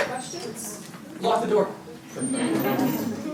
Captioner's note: audience members laugh